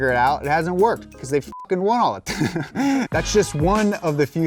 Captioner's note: beeps